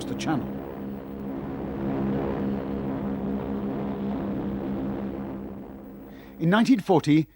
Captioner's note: engines humming